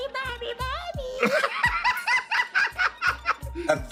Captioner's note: laughs